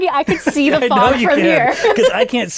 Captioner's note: laughing